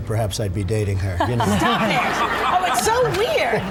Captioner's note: everyone laughs